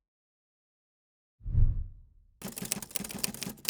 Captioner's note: whooshing; typing